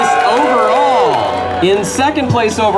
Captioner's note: cheering